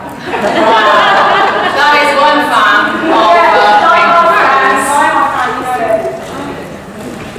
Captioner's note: audience laughs